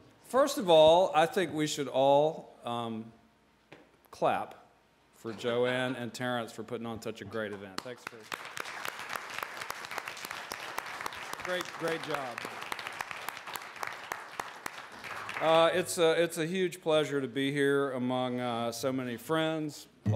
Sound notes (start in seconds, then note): 7.7 applause